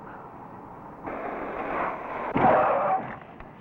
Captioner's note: tires Screeching